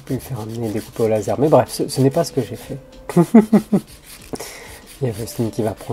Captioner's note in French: rires